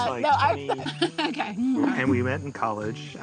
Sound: laughs

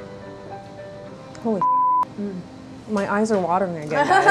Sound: beep

